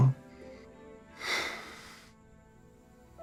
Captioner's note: sighs